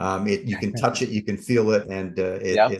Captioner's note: laughs